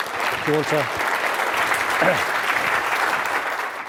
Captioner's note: crowd claps